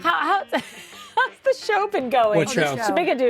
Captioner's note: laughing